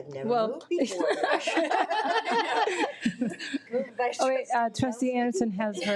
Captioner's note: trustees laughing